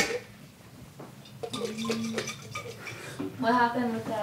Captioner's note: liquid splashing in jar